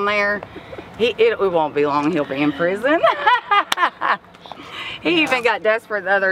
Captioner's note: laughs